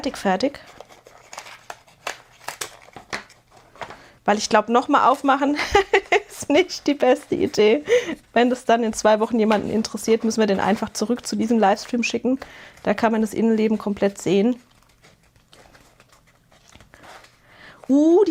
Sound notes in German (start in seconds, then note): 5.5 gelächter